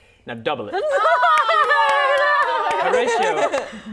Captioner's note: cheering